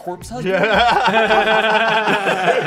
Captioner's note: everyone laughing